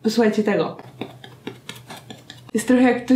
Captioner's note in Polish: tup tup tup